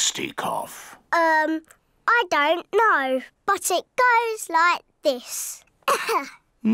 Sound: coughs

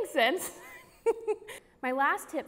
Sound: woman laughs

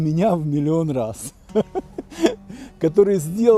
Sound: laughs

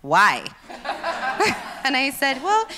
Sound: laughs

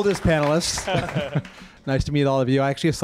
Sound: laughter

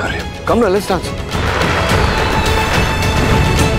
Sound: crackers bursting

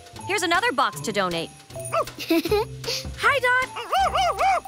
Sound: barks

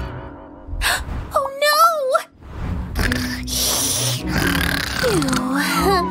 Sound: snoring

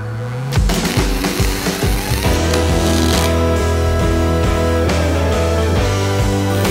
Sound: soft rock music; welding machine buzzing; welding machine crackling

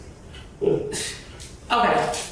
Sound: Cat scoffs

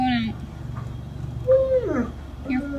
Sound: dog whining

